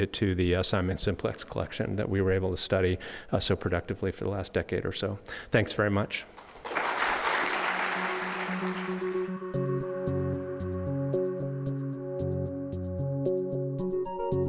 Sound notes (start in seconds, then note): 6.3 audience applauding; 7.7 bright music